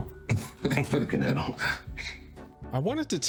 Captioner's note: laughs